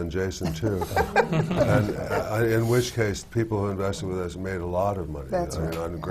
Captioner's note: laughs